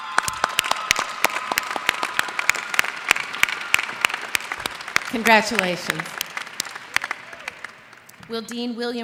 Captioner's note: applause